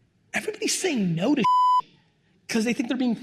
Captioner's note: beep